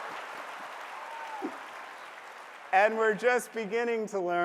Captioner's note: applause